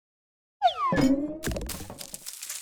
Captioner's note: whimsical slide-whistle